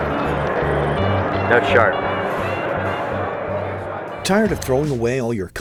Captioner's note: voiceover